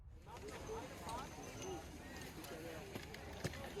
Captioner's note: people chatting